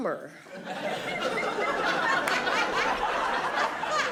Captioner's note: audience laughing